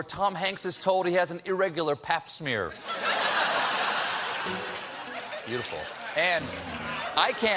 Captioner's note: laughter